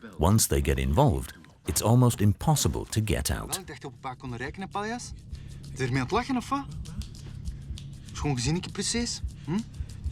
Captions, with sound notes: Once they get involved, it's almost impossible to get out. [Dutch spoken audio]